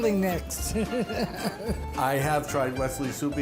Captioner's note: patron laughing